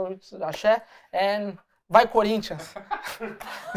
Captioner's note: non-english speech; laughter